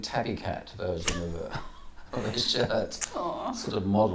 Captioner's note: laughs